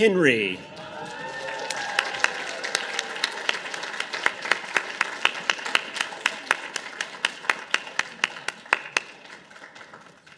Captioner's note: audience applause